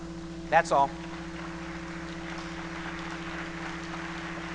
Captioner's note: applause